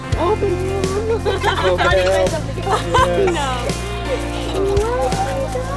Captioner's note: speaks faintly; family chattering; bright music